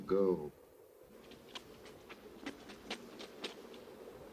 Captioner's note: wind blowing; Mary's footsteps; wind blowing